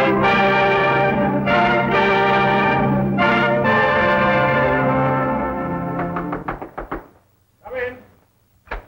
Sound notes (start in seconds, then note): 5.9 knocking